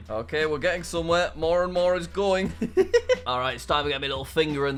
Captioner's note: laughs